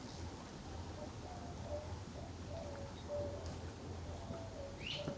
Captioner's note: distant dove cooing